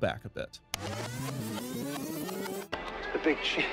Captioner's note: video Rewind Sound